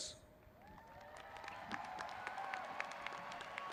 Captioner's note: applauding